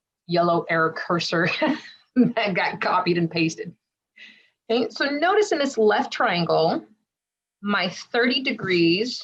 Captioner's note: giggle